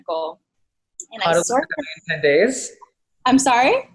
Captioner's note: murmurs